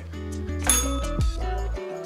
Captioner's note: bell rings